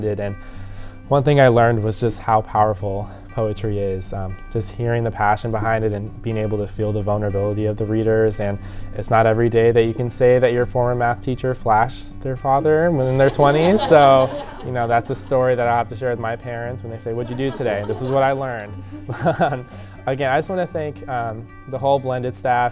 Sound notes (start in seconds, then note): 19.3 chuckles